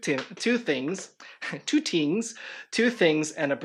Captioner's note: laughs